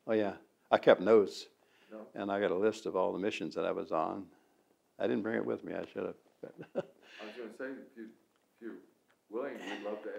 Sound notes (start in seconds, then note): 6.4 laughs